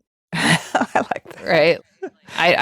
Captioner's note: laughing